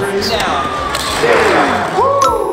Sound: clinks; whooshing; dings

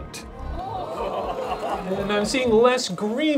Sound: audience gasping

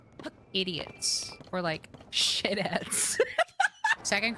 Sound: laughter

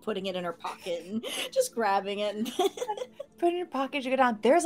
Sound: giggles

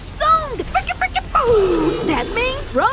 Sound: Neeko makes record scratch sound

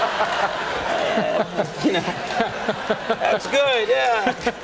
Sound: laughter

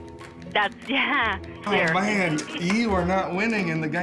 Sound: laughs

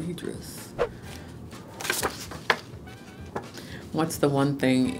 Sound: card flapping

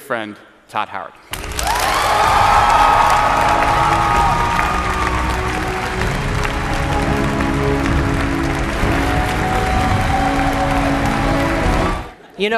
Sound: audience Cheering

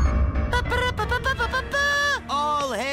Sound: Hank imitates a horn

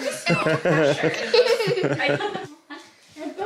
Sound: man laughs

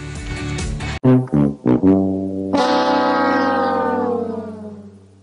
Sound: horn

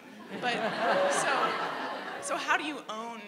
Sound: laughter

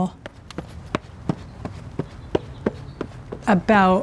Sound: footsteps thudding

